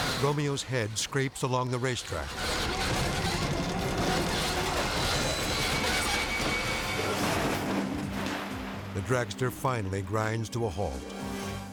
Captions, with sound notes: Romeo's head scrapes along the racetrack. (dragster crashes) The dragster finally grinds to a halt,